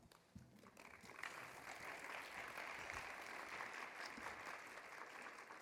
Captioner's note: audience applauding